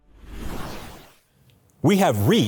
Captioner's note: whooshing sound effect